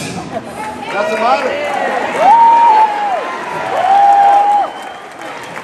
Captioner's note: crowd cheers